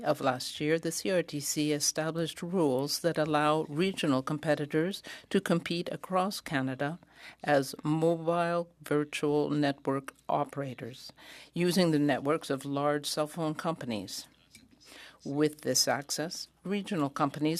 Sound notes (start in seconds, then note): 1.0 speaking French